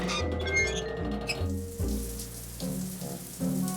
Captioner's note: water running